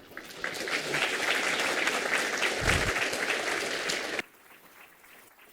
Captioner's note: applause